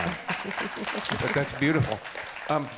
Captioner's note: audience applauds